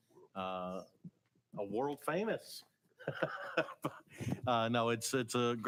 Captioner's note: laughs